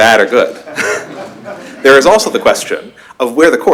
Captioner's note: laughter